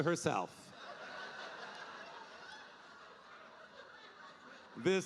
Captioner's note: audience laughing